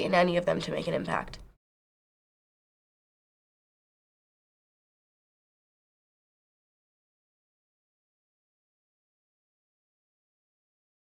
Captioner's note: silence